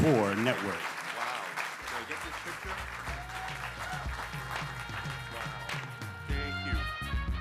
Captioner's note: applause